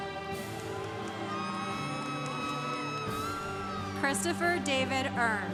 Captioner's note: congregation cheering